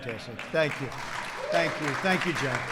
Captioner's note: applause